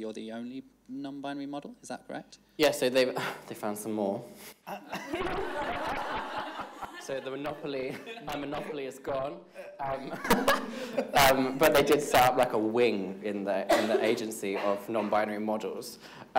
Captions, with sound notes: you're the only non-binary model, is that correct? - Yes so they've, they found some more. (everybody laughs) - So my monopoly is gone (laughs). But they did start like a wing in the agency of non-binary models.